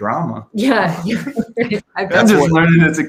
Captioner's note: laughs